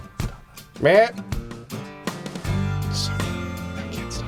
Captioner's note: deer call; whispering continues